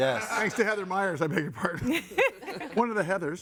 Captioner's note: guests laughing